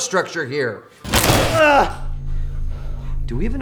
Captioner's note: carl screams